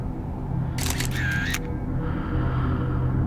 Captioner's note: shutter clicking